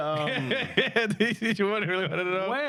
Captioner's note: laughing